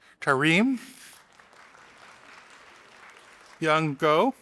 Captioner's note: audience applauding